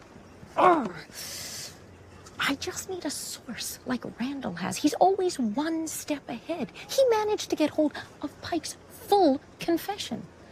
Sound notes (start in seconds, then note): 0.6 grumbles